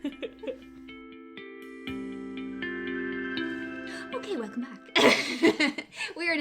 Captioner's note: laughter and whooping